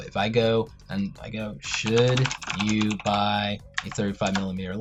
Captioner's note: intense typing